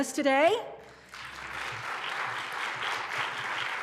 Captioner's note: applause